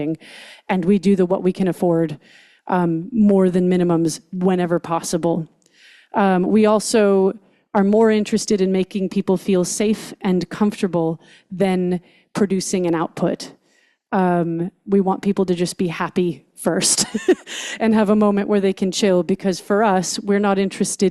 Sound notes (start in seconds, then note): 17.1 laughs